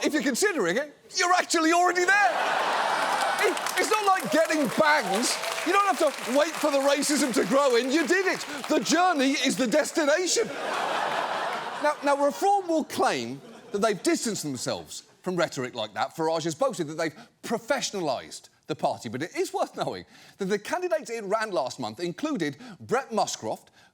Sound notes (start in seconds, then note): 2.0 audience laughs; 9.4 audience laughs